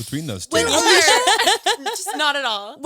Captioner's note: all laughing